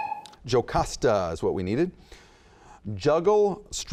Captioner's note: dinging